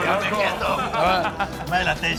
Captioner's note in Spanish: Risas